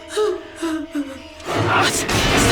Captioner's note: crying